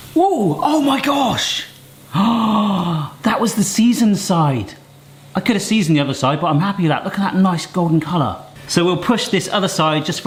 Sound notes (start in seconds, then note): 2.1 gasps